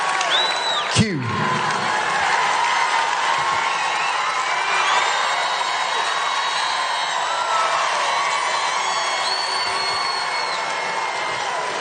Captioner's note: applause